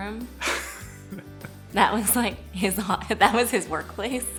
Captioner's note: laughs